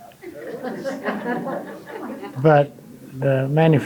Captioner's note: audience laughing